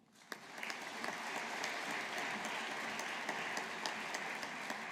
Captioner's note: audience applauding